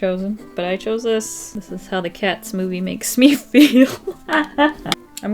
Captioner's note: laughs